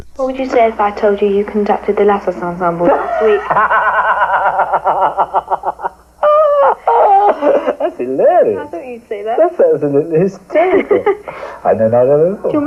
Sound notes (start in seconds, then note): 7.0 laughs